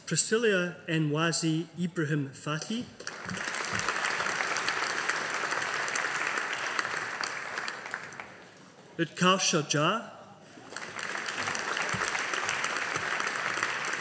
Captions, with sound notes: Priscillia Nwasi Ibrahim-Fatai. (AUDIENCE APPLAUDING) Utkarsha Jha. (AUDIENCE APPLAUDING)